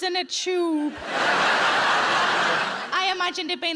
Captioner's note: audience laughs